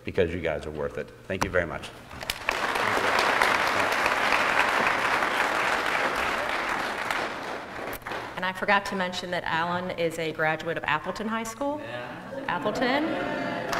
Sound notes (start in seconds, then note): 2.2 applause